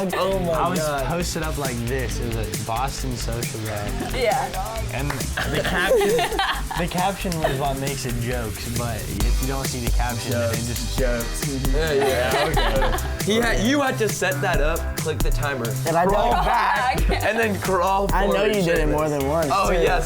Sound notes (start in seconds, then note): 11.9 everybody laughs